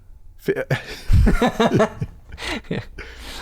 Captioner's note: laughter